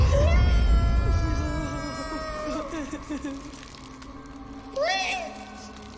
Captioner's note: screams